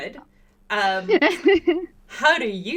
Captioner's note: laughter